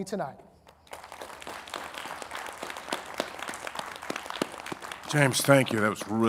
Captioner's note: audience applauding